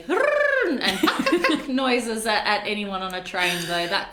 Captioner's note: imitates penguins